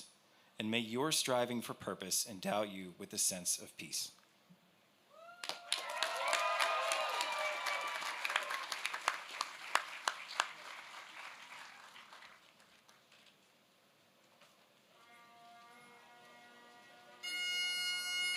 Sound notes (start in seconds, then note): 5.1 cheers